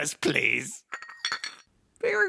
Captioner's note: sound of tea cup rattling